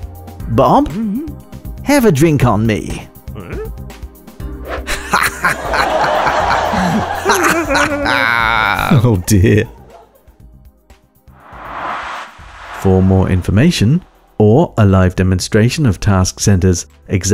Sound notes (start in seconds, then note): 4.9 laughing